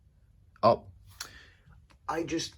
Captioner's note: tch